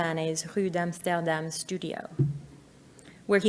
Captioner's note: speaks French